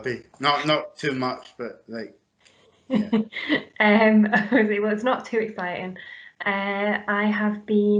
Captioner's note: laughs